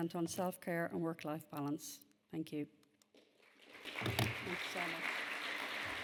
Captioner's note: audience applauding